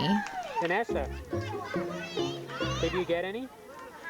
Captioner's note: cheering